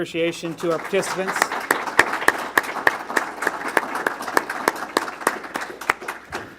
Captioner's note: applause